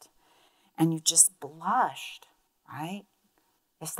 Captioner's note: speaks in Spanish